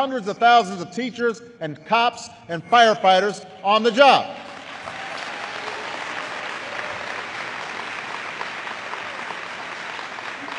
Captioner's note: applause